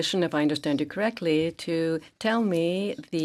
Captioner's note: speaking French